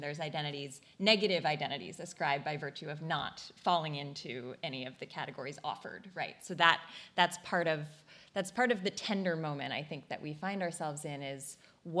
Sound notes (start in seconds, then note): none